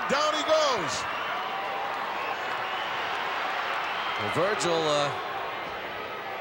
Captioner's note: applause